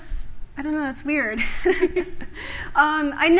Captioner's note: laughter